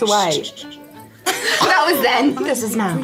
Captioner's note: all laughing